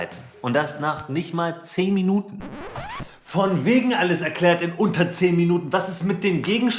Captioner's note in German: Record Scratch